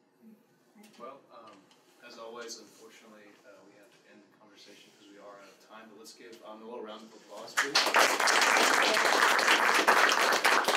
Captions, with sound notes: to end the conversation because we are out of time, but let's give a round of applause please. [ Applause ]